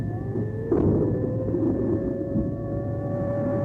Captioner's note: sirens